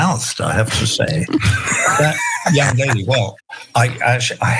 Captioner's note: laugh